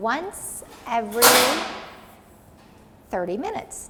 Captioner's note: machine clanks